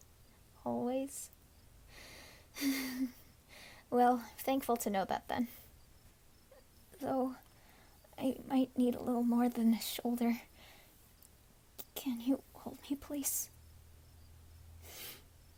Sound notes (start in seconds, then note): 2.8 sigh